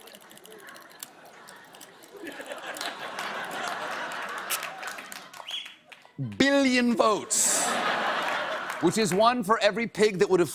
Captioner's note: laughter